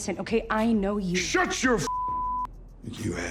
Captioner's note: beep